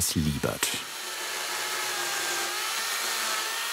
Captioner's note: loud sawing noise